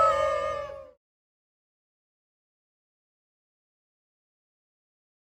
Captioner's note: cheering